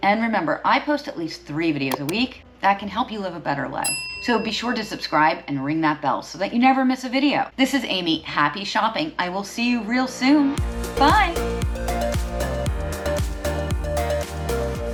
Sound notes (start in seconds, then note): 3.8 bell dings; 10.6 uplifting upbeat music